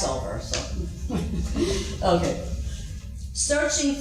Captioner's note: laughing